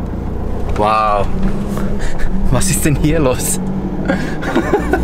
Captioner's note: laughter